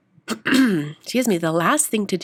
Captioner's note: clears throat